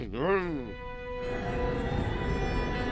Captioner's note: eerie sound